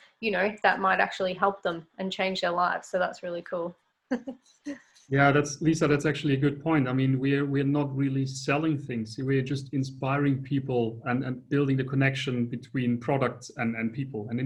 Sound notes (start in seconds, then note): 4.6 laughs